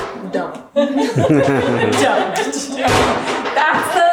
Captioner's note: laughing